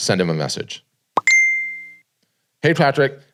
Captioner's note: alert chiming